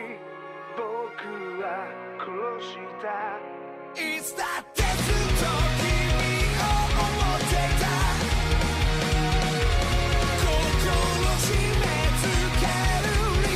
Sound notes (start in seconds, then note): none